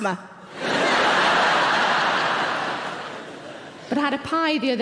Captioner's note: audience laughing